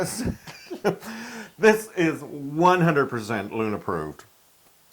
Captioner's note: laugh